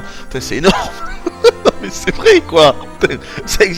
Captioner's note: laughs